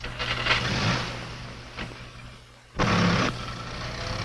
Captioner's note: car engine revving